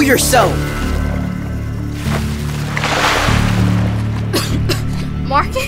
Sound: water Splashing

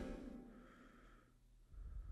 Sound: heavy breathing

